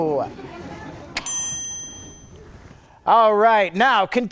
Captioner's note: bell dings